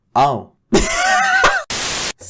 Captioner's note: wheezing